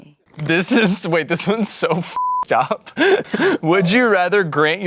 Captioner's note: beep